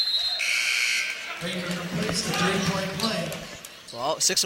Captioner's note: buzzer sounding